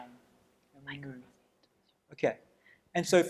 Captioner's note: whispering